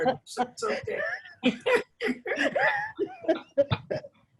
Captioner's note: both laughing